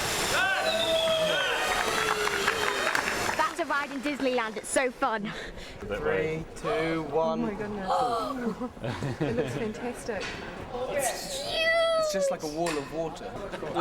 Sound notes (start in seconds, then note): 2.3 all cheering; 7.9 gasps